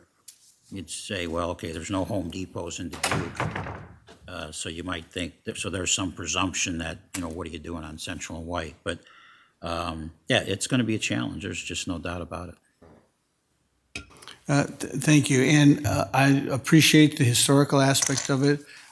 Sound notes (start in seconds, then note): 3.7 object thuds